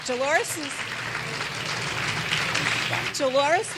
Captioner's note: clapping